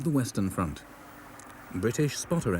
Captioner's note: planes whir